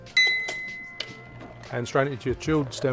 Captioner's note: glass ringing